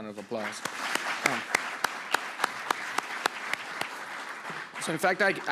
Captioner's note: audience clapping